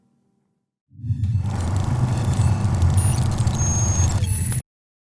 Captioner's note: glitchy noises